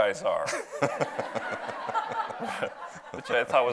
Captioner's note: audience laughs